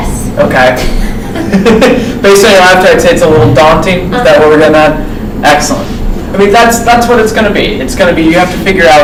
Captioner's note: laughs